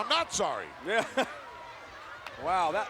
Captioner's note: laughs